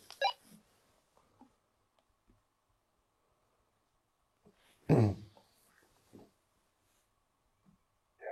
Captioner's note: silence in the background